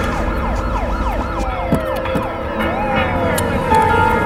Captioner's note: sirens wailing